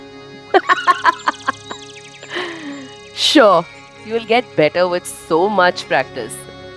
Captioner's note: laughs hysterically